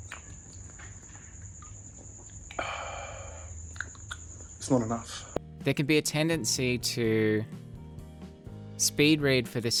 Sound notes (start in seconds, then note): 2.5 man exhales